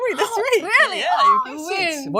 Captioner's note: gasps